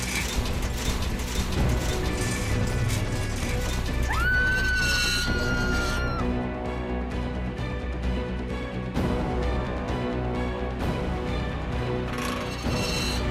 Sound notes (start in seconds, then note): 0.0 armor creaking; 4.0 screaming